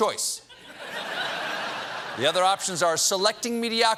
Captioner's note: laughter